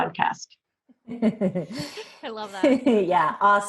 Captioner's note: chuckling